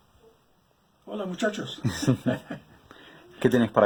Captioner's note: laughs